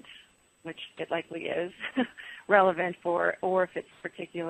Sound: laughs

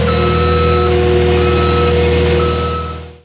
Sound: reverse signal beeping

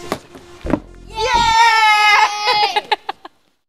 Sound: cheering

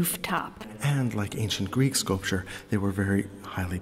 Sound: voiceover

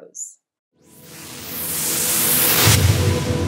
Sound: whooshing

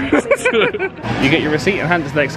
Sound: both laughing

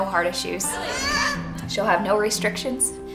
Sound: kids yelling

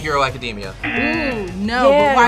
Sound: buzzer rings; buzzer

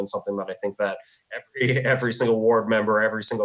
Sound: chuckles

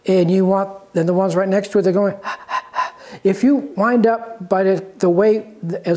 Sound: panting sound

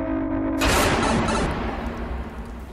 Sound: mario pipe travel effect

